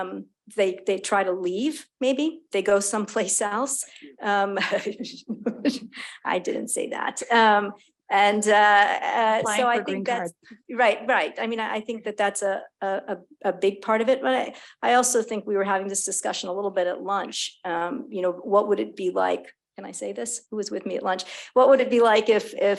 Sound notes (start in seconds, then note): 5.2 chuckling